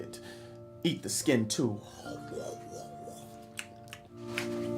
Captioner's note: eating noises